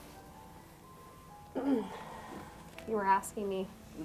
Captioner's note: clears throat